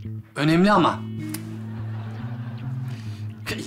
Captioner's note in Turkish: Gülme efekti